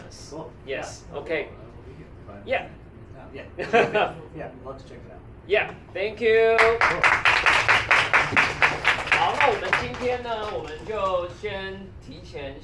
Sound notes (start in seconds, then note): 6.5 applause